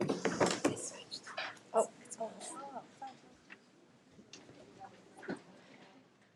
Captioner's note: board members chattering off-mic